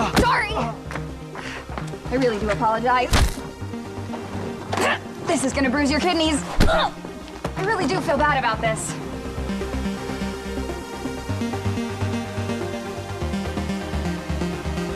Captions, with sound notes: Sorry. (gang member grunting) I really do apologize. (Riley grunting) This is gonna bruise your kidneys. (Riley grunting) I really do feel bad about this.